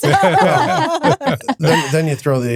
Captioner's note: laughing